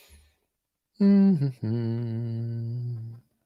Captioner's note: hums